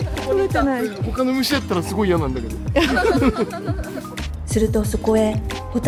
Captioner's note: laughs